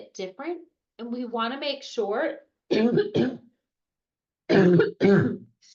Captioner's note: coughs